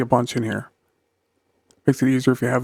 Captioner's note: silence